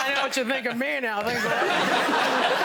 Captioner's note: all laughing